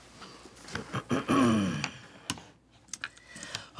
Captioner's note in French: se racle la gorge